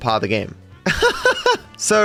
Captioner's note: laughs